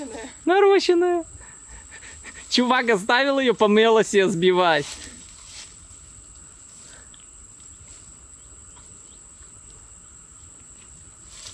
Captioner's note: laughs